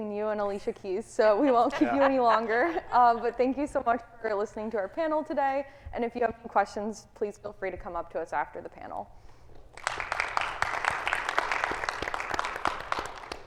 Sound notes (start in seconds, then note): 9.6 audience applauding